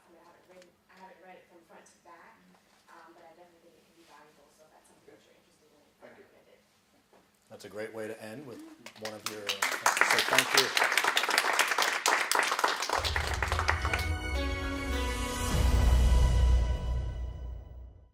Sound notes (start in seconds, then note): 8.8 applause